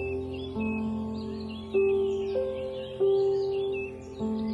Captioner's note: birds chirping